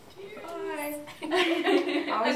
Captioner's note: girls laughing